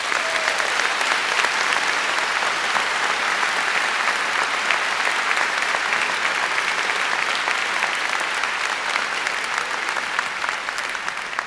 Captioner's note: applause